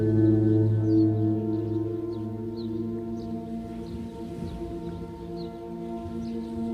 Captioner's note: light gentle relaxing music; waves crashing